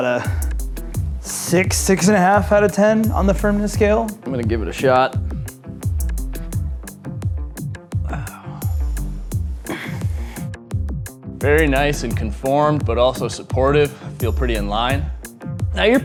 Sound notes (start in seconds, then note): 7.9 sighing; 9.8 funky music